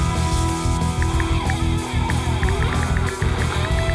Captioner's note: ticking